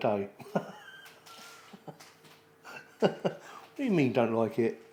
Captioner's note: laughter